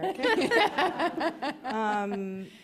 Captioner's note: laughter